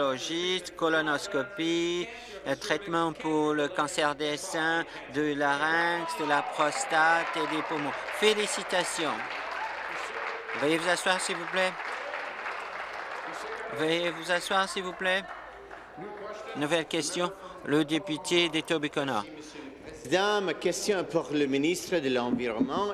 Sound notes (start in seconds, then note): 14.6 applause